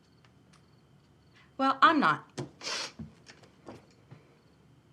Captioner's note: sniffles